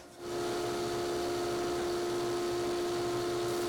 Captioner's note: machine whirring